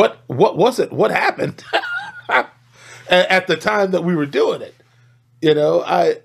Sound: laughs

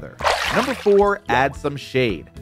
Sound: water splashes

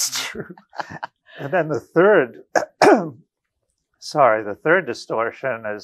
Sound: coughs

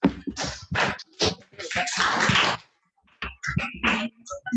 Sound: audience clapping

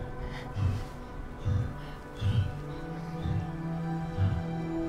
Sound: laboured breathing continues

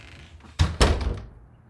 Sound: door closes

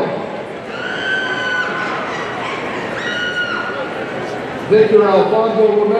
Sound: audience cheering

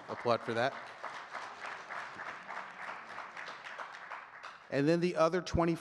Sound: audience clapping continues

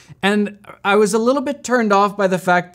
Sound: none

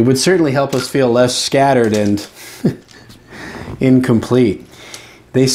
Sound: laughing

